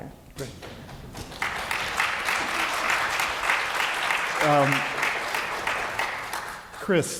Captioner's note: applause